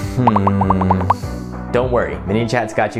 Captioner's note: popping sound